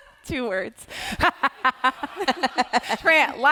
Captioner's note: laughing